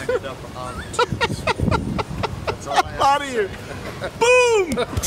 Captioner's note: laughing